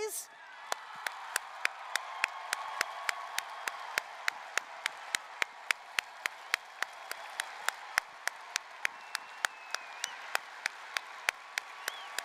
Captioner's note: applause, cheering